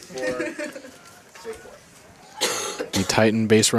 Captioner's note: indistinct chatter